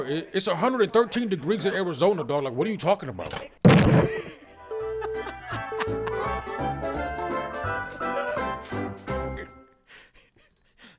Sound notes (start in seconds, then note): 4.0 laughing; 6.2 cheerful music playing